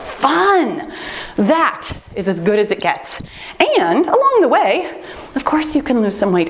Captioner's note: timer beeps